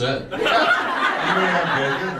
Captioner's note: audience laughs